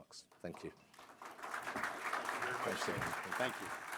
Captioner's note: applause